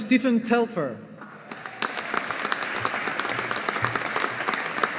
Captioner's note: audience applauding